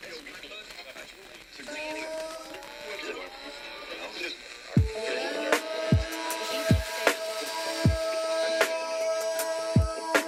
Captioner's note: radio interference and music